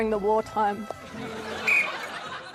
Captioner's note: blows whistle